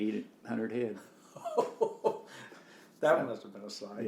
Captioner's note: laughs